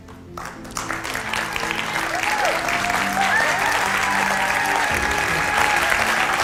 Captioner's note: audience claps and whistles